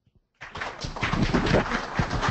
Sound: audience clapping

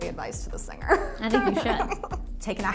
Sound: laughing

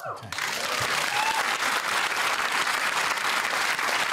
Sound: cheering and applause

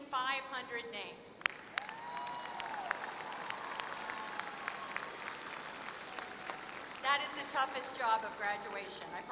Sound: applause

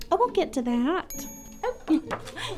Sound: computer pings

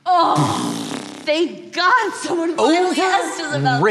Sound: blowing raspberry

